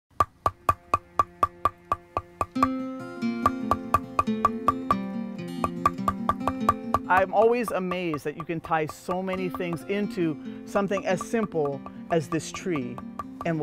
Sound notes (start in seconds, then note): 0.1 tapping